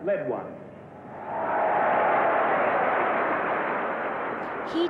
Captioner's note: crowd cheering